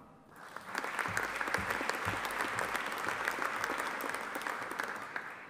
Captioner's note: audience applauding